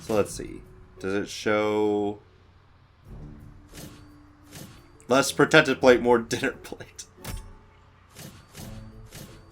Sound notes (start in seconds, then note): 6.5 laughs